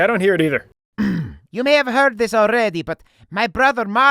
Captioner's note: coughs